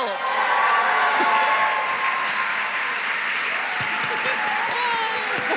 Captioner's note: cheering, applause